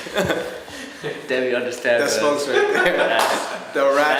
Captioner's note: laughs